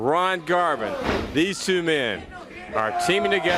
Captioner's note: crowd chatter